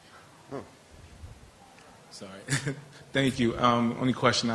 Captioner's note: laughter